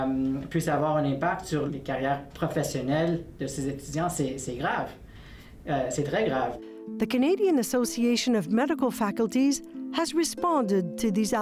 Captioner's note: speaking French